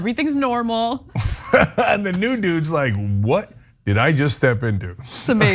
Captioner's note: laugh